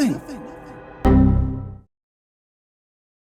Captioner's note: Windows 95 error noise